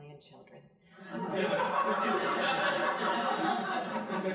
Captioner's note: crowd laughing